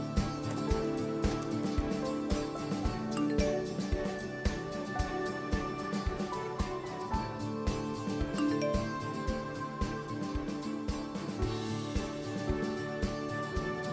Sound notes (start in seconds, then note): 2.7 phone beeps